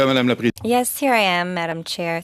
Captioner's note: speaking French